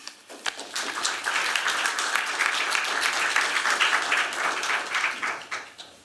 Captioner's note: applause